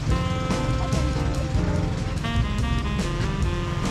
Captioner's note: laughing